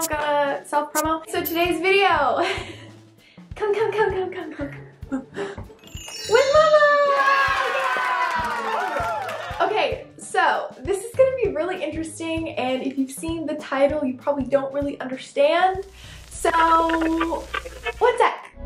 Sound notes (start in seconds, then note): 5.8 chimes; 7.1 applause; 15.8 radio static sfx